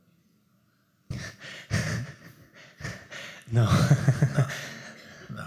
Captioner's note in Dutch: gelach